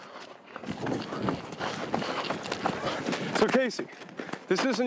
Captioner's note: heavy breathing